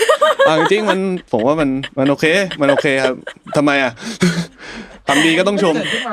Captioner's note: laughs